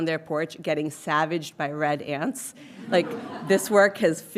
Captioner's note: audience chuckling